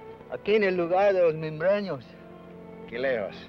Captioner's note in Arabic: بن يتحدث لغة أجنبية; الأمريكي الأصلي يتحدث لغة أجنبية; بن يتحدث لغة أجنبية